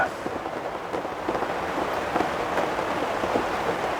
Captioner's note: helicopter whirring